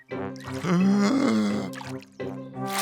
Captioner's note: takes a deep breath